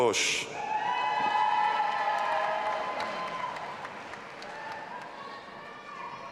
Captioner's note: audience applauding and cheering